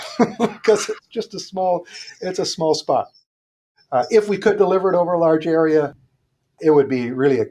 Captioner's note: laughs